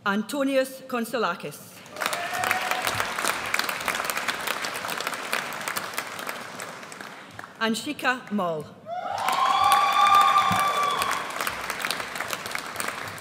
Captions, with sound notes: Antonios Konsolakis. (AUDIENCE CHEERS) Anshika Mall. (AUDIENCE CHEERS)